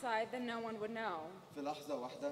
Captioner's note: speaking native language